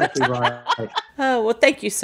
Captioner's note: laughing